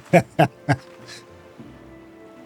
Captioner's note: laugh